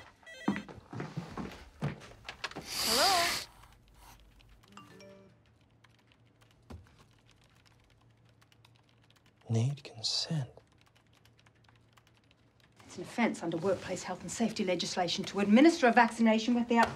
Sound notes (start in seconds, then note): 4.2 phone dings